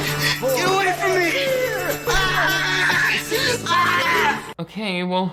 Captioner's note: screams